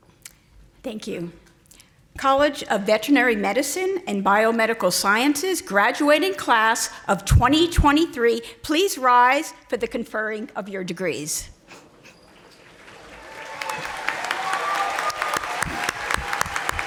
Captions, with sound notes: - Thank you. College of Veterinary Medicine and Biomedical Sciences Graduating Class of 2023 please rise for the conferring of your degrees. (audience applauding)